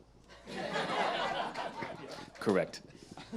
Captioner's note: audience laughs